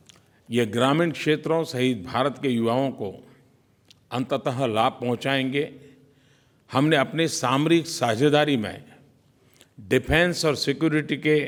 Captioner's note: PM Modi speaks in Hindi